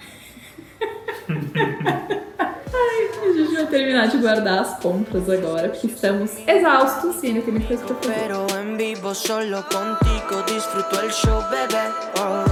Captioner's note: laughter